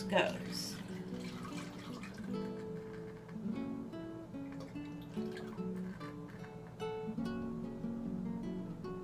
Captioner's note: sound of liquid pouring